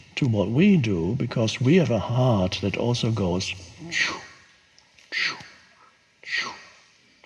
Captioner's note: mimics whooshes